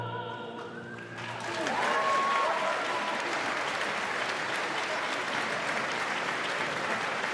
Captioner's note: audience claps